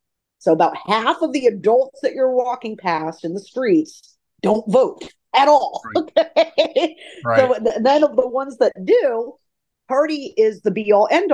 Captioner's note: laughs